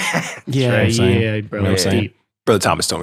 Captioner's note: laughs